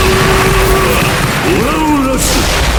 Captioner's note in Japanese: 叫び声